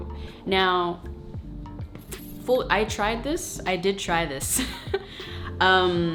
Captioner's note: chuckling